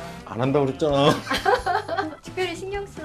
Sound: haha

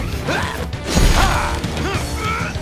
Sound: groaning

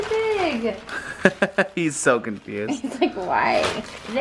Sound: laughter

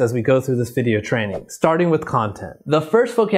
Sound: logo whooshes

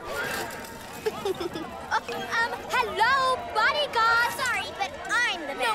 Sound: chuckles

